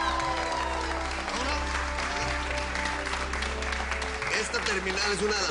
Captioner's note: Aplausos